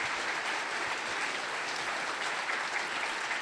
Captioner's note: applause